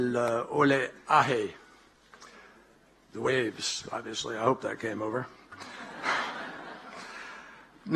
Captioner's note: laughter